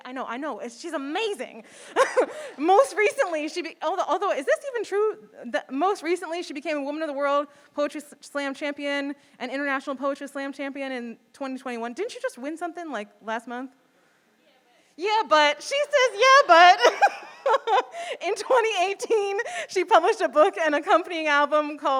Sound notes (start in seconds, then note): 16.6 chuckles